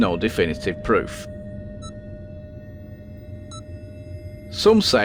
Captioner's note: sound of a heart monitor bleeping